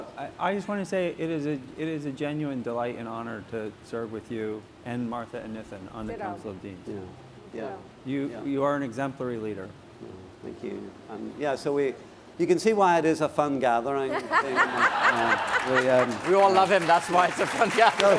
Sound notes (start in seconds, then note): 14.0 laughter